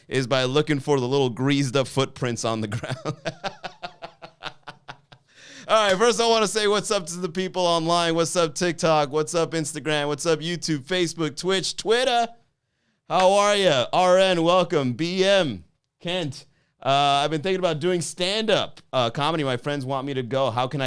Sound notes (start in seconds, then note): 2.8 laughs